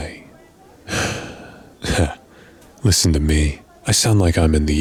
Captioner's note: sigh